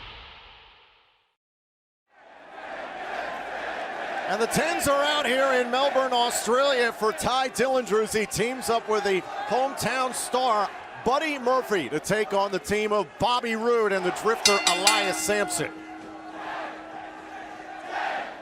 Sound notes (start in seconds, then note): 2.3 fans chanting; 14.4 bell; 16.3 fans chanting